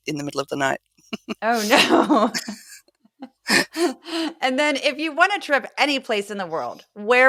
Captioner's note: laugh